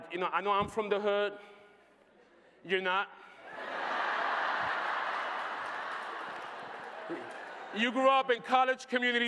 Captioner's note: laughter